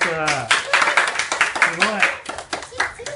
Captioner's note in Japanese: 拍手